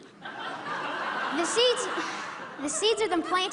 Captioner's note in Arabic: ضحك